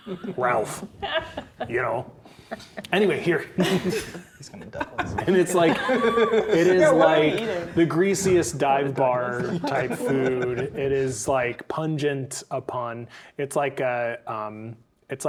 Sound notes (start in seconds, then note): 0.0 laughing; 3.6 laughing; 3.6 players laughing; 4.4 quietly; 9.2 laughing